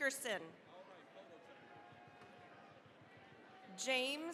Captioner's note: cheering, applause